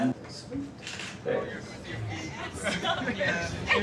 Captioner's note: people chattering